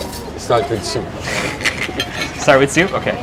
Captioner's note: giggles